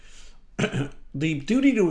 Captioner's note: clears throat